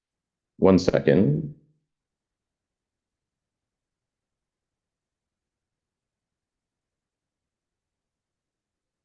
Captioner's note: silence